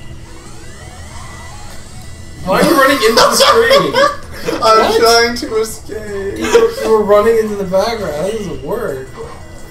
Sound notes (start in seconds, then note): 2.4 laughs